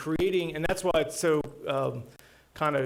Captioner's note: none